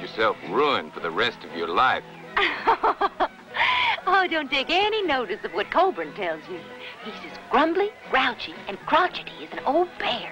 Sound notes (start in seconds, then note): 2.3 laughter